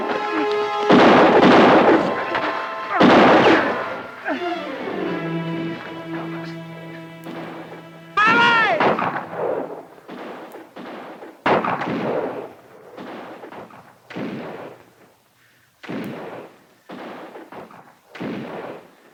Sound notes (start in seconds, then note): 1.0 guns fire; 10.3 guns fire